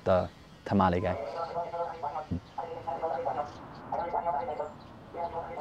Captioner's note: video fast forwarding